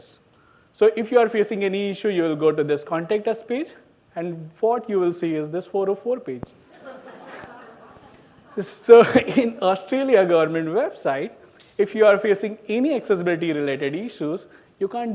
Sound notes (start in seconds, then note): 6.7 laughs